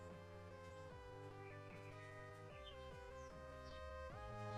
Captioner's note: birds chirping softly